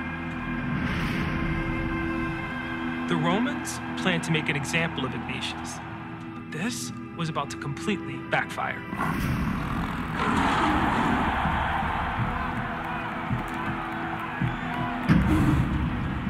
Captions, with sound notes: The Romans plan to make an example of Ignatius. This was about to completely backfire. [lion snarls, crowd cheers]